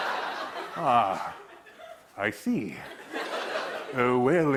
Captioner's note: laughter